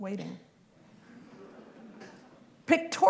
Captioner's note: laughter